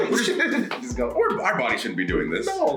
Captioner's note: laugh